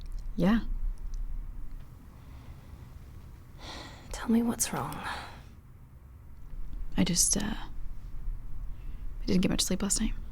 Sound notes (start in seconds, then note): 3.7 sighs